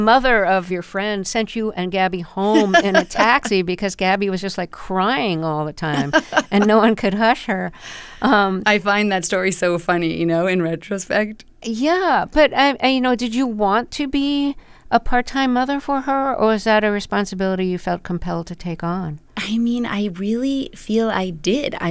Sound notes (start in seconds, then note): 5.9 laughter